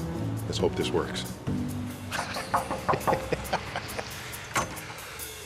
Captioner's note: knocking on glass door; laughing